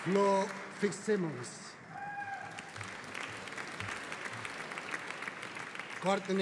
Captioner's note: audience applauding